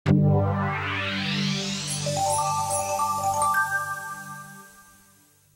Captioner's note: bright electronic tones